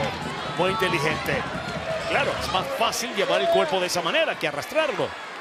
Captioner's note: commentator speaking Spanish